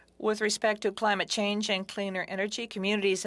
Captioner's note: speaking French